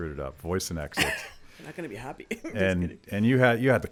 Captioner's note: chuckles